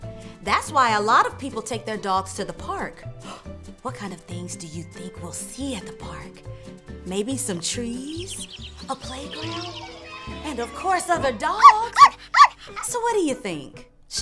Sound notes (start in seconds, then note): 11.5 puppy woofing